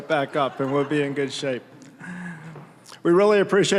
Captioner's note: audience laughing